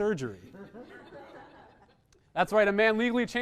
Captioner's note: small audience laughter